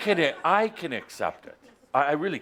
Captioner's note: laughter